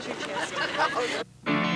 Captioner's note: laughter